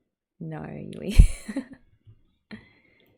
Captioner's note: laughs